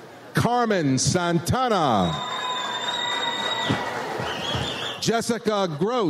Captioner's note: audience cheers